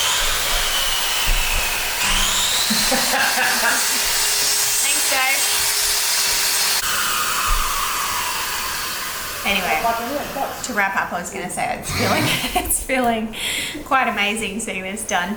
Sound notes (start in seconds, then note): 0.6 drop saw cries